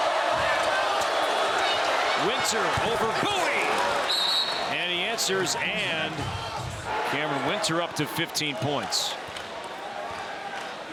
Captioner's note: cheers and applause